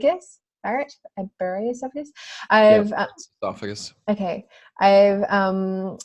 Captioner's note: voice distorted from recording